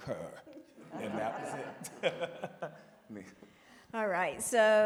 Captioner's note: all laugh